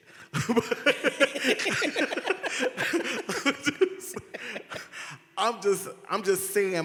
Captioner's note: all laughed